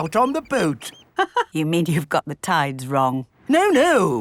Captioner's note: laughs